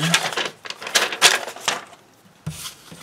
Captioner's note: paper crinkling